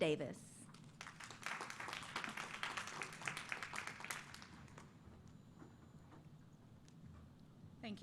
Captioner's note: applause